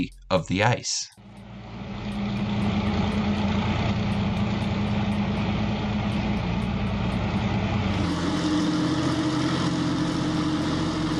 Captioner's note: massive Engine Sounds